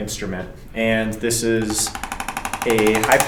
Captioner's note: instrument clicking